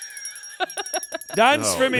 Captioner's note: laughs